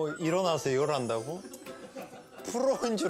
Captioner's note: haha